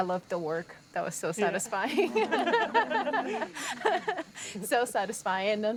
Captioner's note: laughing